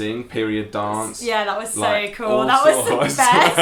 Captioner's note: laughing